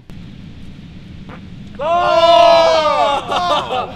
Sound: farts

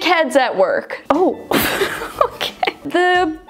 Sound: laughs

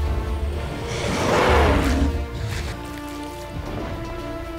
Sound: roar; dramatic music

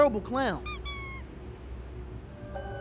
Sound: clown squeaks; ominous music

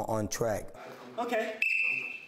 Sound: coach whistles

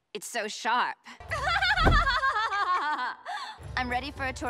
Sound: laughing

